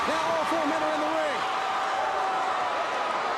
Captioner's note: crowd cheering